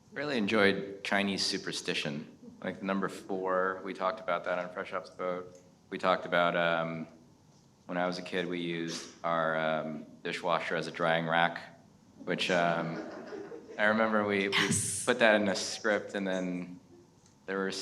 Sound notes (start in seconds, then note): 12.3 audience giggles